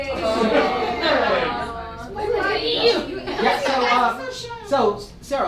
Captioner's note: audience awwws